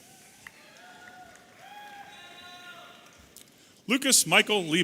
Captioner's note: audience applauding and cheering